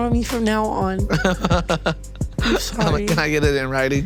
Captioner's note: laughing